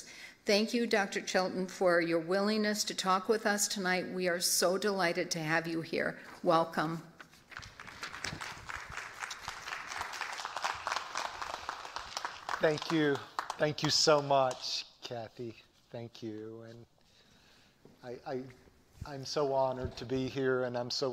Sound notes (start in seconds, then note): 7.5 applause